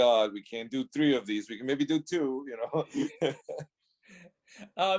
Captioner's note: laughs